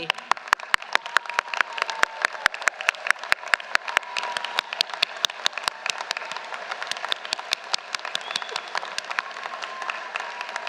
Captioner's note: applause